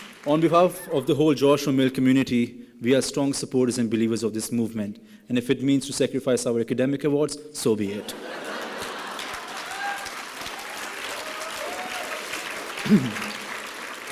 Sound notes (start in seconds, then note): 0.0 applause and cheering; 8.2 laughing; 10.6 applause and cheering